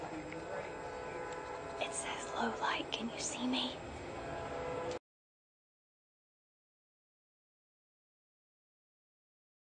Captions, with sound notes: (whispers) It says low light, can you see me?